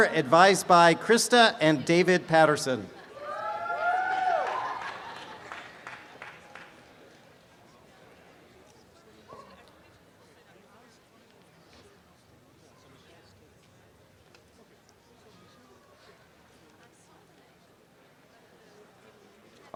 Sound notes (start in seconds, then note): 3.2 applause and cheering; 7.9 background audience chatter